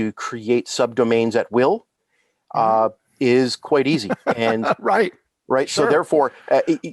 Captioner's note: laughing